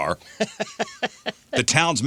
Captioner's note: laughing